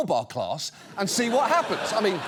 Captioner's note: audience laughs